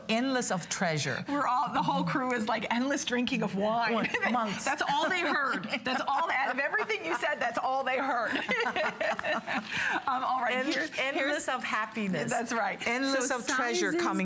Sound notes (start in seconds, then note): 6.6 laughter